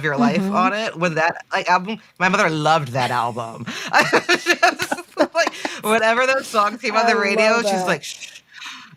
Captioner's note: they laugh